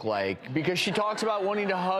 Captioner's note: audience laughs